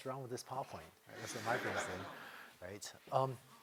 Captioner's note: laughter